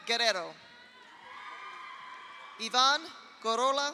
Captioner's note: audience cheers; audience applauds